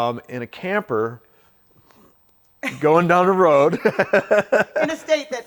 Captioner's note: laughs